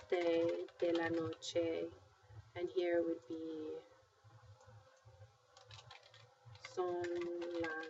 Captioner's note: speaking spanish